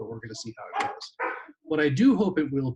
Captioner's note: dog barking